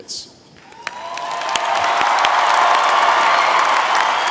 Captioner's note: applause